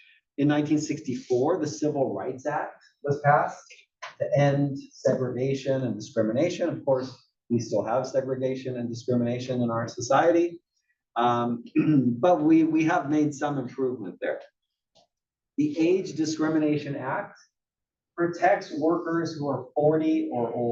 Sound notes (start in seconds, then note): 11.7 cough